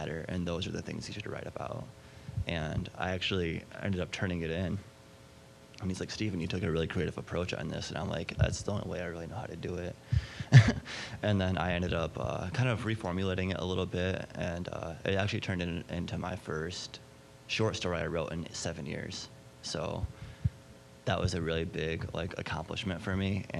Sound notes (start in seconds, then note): 10.2 chuckling